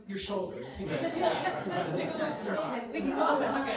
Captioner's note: laughter